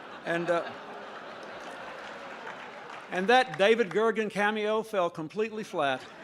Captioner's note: laughter